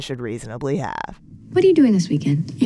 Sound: soundbite of tv show, "gossip girl"

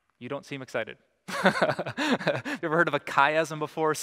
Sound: pastor: Laughter

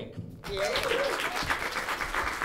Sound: applause

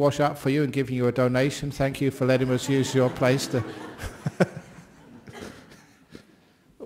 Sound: laughter

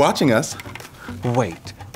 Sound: gasps

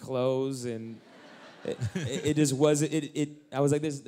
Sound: laughter

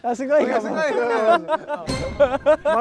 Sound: hahaha

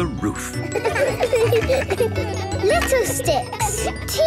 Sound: laughter

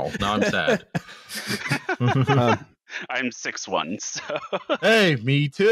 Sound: laughter

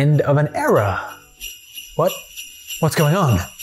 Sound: christmas bells

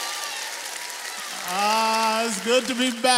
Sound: audience applauds

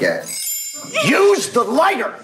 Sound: soft chiming

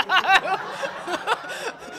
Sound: laughter

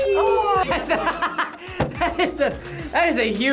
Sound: laughs

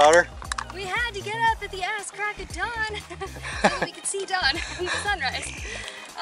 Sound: laughter

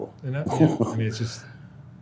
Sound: laughing

